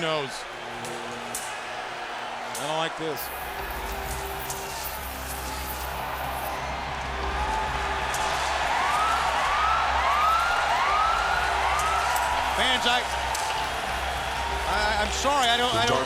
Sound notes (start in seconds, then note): 9.8 siren blaring